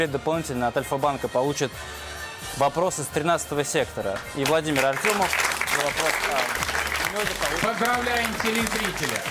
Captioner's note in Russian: аплодисменты